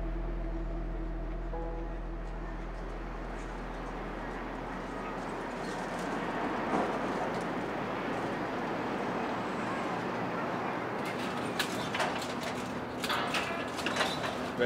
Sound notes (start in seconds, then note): 5.5 sounds of city traffic